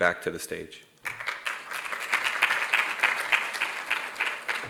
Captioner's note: audience applauding